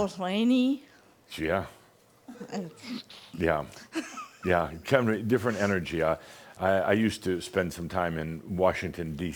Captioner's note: she chuckles